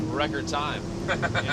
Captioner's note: laughs